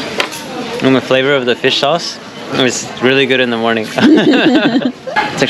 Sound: laughing

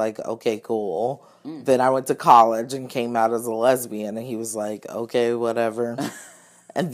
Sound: laughs

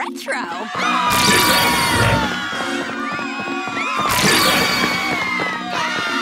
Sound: yelling and screaming

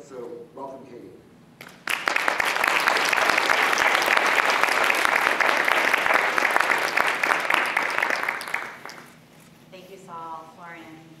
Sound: applause

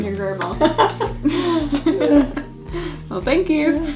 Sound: mom and grandma laughing

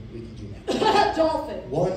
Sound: coughs

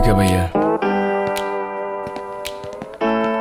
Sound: footsteps

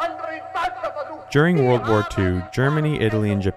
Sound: shouting in German; voiceover

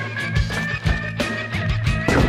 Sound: gun reloading; gun shot

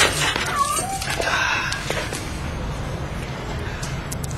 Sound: cat meows

